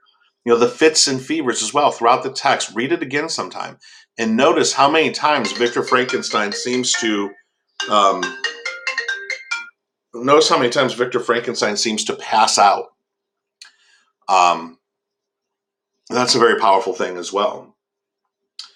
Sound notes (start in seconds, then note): 5.3 phone ringing; 7.5 phone continues ringing